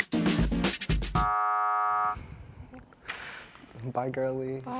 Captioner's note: buzzer buzzing